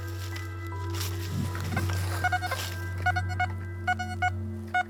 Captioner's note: metal detector beeps